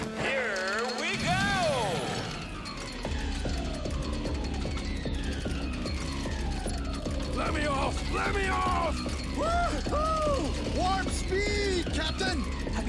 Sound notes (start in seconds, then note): 2.1 vehicles rattle; 9.6 cheers